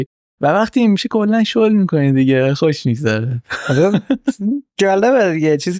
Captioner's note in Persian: خنده